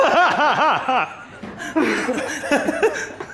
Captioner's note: all laugh